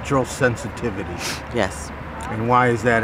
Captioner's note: sniffs